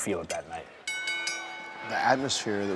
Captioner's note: bell dinging